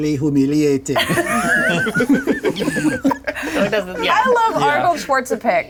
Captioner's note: everyone laughing